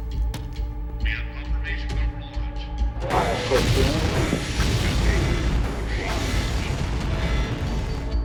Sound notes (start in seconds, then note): 3.1 rockets blasting